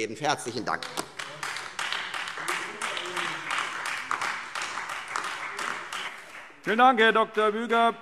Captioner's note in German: Beifall Freie Demokraten und AfD